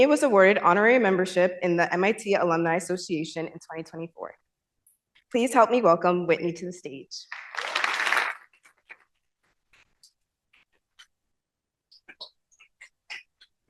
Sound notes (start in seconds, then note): 7.3 applause